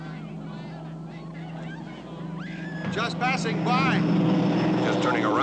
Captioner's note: airplane Engines Droning